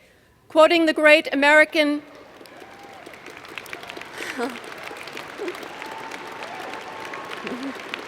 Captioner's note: applause